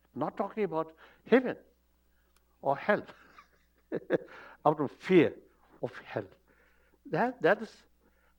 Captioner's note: laughs